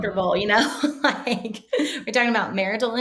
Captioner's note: chuckling